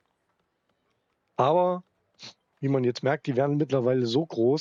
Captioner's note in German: schnauben